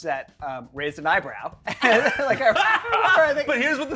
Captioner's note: group laughs